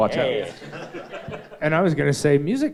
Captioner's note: audience chuckles